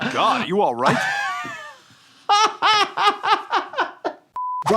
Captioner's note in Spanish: riendo